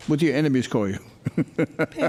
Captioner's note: laughs